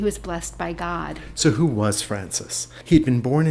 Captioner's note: voiceover